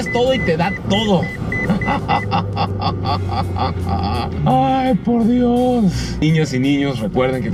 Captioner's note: laughter